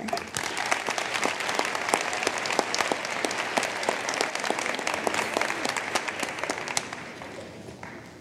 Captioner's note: applause